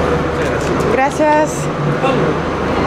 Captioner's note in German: auf Spanisch